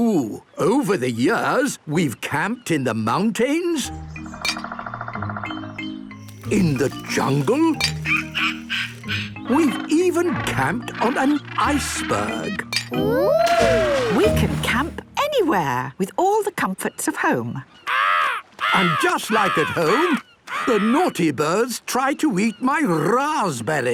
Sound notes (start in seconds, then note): 17.8 seagull cries